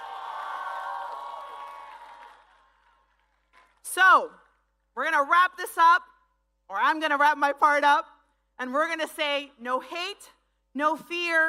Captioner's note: speaking spanish